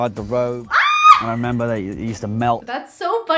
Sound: squeals

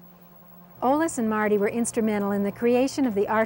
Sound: voiceover

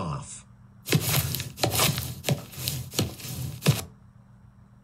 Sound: footstep on a Concrete

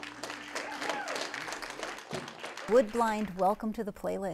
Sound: applause

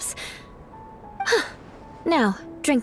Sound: sigh

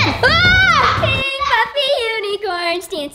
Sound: screaming

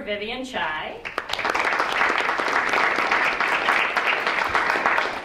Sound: audience clapping

